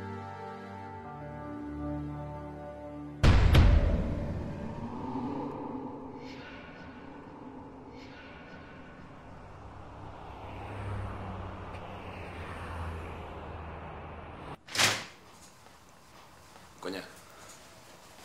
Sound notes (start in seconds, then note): 3.0 intriguing music; 10.2 Traffic; 14.6 door opening